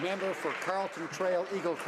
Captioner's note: some Applause